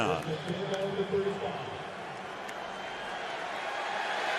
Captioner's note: pa announcement